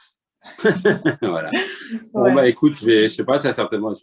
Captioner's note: laughter